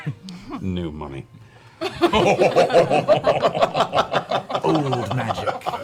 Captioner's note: laughter